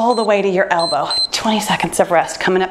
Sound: timer beeps

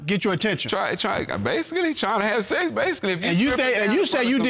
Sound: stammers

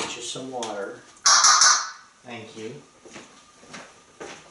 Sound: Einstein makes the banging sound

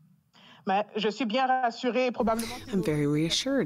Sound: speaking in French

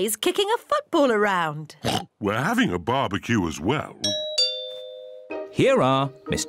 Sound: oinks; doorbell rings

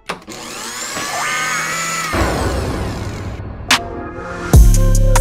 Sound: blender whirring; upbeat rap music

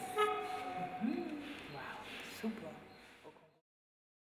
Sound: people chattering

